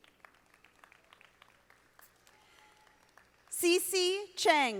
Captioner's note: audience applauding